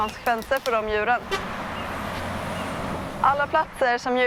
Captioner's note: traffic noise